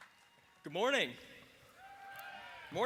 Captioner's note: applause